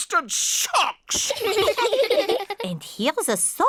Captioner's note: all laugh